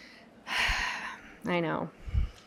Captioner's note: sigh